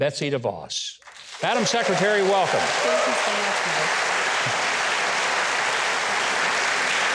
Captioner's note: audience applauding